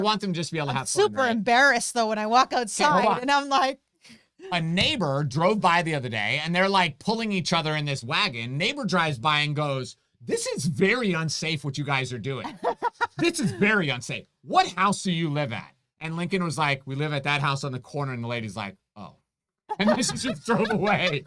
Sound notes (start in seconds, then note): 12.4 laughs